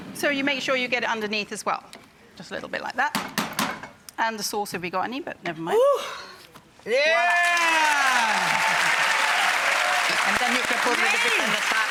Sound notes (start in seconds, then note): 3.2 tongs bang; 6.9 crowd cheering